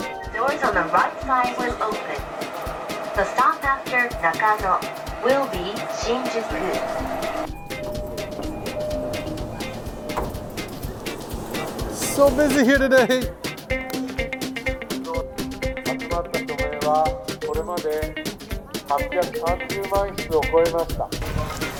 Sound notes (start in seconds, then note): 7.1 subway sounds; 7.1 upbeat music; 13.8 upbeat music; 16.5 man speaking Japanese, amplified; 16.5 upbeat music